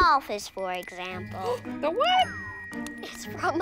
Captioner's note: gasps